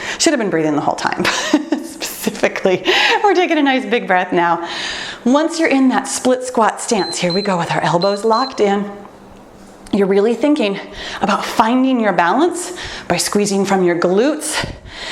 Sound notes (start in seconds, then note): 1.3 laughs; 7.8 timer beeps